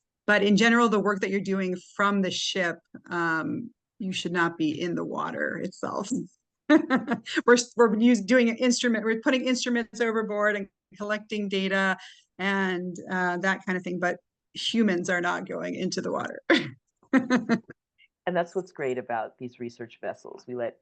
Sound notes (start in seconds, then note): 7.2 laughs; 17.2 laughs